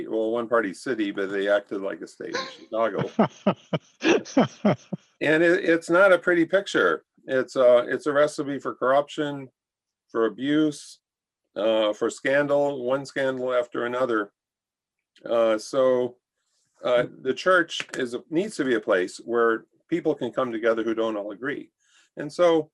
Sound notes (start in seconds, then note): 2.8 laughter